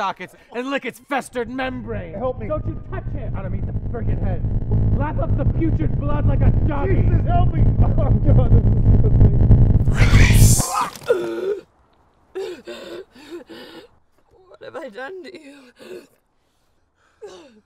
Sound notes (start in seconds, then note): 1.8 rumbling begins; 9.4 rumbling ends; 10.2 wretching; 12.4 gasping